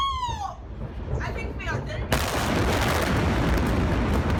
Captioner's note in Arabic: انفجار قوي